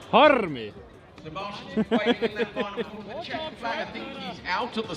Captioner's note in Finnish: taustapuhetta